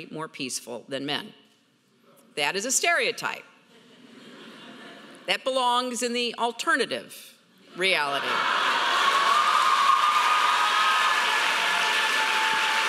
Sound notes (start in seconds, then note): 3.8 audience laughing; 8.2 audience cheering loudly